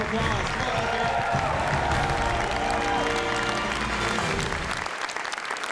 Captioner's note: cheering and applause